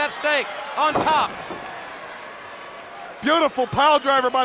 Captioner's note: wrestlers thudding on ring